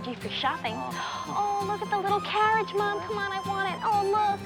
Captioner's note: gasps